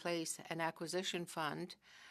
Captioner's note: speaking french